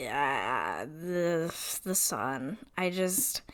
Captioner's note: stammering